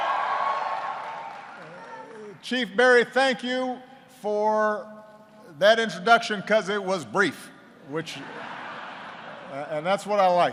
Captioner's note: applause; laughter